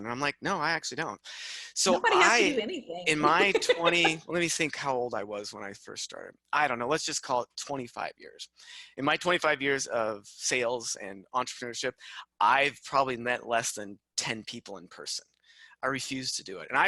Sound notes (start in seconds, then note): 3.0 laughs